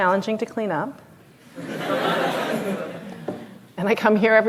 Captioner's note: laughter